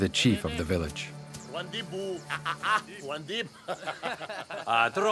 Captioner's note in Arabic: الصوت المنطوق الأجنبي